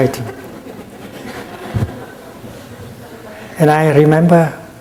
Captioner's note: audience laughing